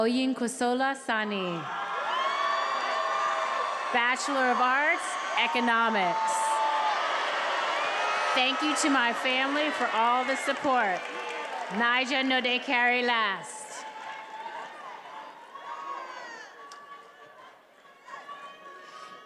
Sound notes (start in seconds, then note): 2.7 attendees applauding and cheering; 12.1 faculty member speaking in foreign language